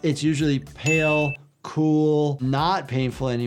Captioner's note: bell ringing